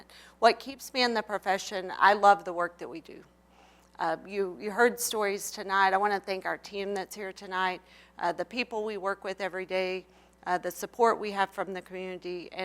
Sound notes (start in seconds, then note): none